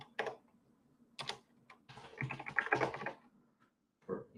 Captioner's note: keyboard clacking